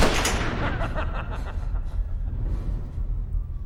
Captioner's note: evil laughter